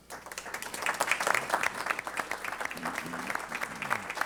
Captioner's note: applause